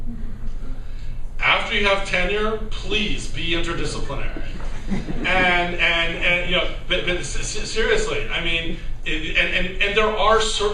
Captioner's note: laughter